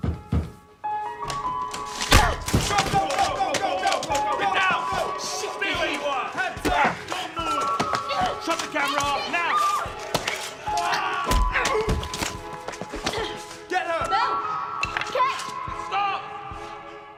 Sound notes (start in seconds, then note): 1.7 door opens - smash; 2.8 scuffle; 10.4 bites